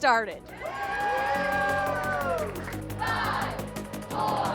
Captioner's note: all cheering